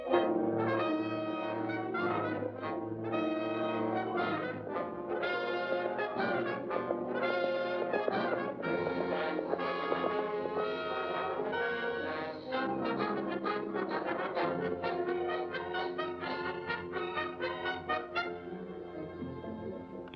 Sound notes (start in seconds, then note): 0.1 suspenseful music; 6.2 hooves trotting; 6.8 suspenseful music